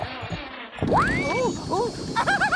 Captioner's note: engine starts